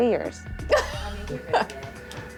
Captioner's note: laughter